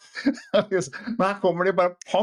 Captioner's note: laughter